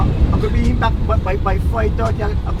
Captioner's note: non-english speech